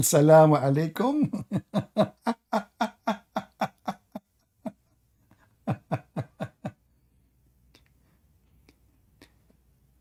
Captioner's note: Ketawa